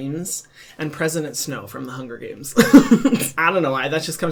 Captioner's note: chuckling